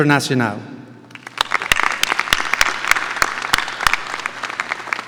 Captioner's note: audience applauding